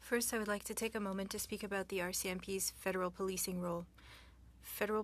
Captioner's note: speaking French